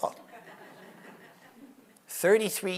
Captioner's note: audience laughs